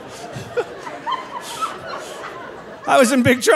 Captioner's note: laughing